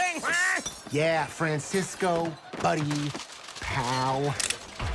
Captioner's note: cocks gun